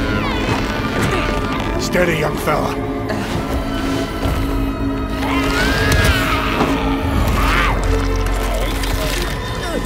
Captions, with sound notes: Steady, young fella. Uh… [screeches]